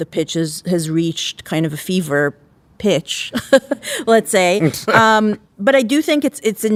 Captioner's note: laughs